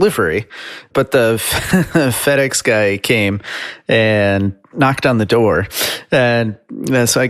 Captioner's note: chuckles